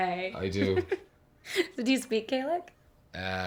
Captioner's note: giggling